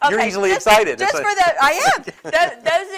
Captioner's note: laughs